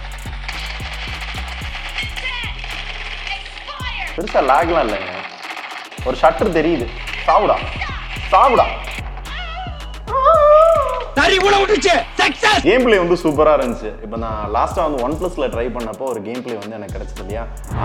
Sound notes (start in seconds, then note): 10.1 howling